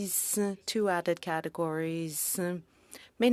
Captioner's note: speaking French